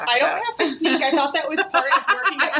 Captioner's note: laughing